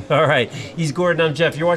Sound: chuckles

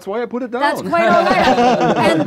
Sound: laughing

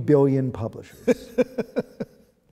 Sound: laughter

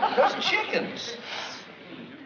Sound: sniffs

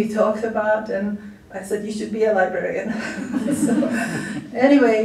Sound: laughter

